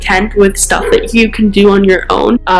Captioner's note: bark